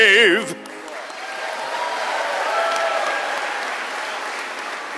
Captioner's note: audience applauds